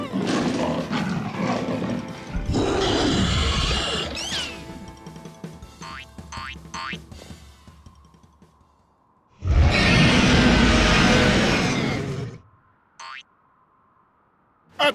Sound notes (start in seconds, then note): 0.0 growling; 2.5 creature roars; 9.4 roars